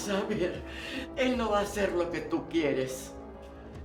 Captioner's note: Spanish